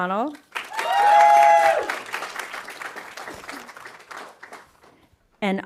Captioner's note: audience applauding